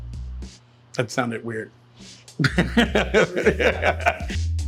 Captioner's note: laughing